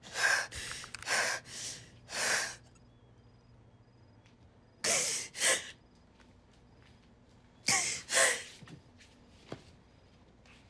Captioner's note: she takes more breaths and cries